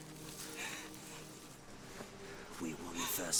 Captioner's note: Naga crying